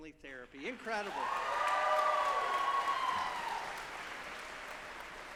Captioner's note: audience applauding